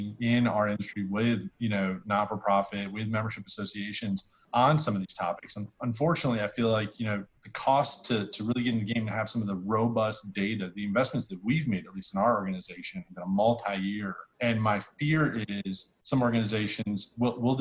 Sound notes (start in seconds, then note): none